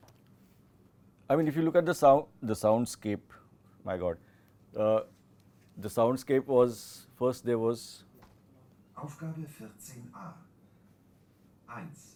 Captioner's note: textbook audio is played